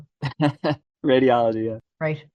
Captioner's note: laughs